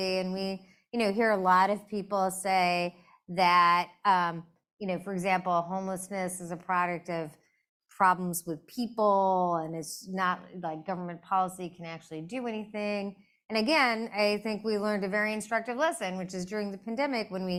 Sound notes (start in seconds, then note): none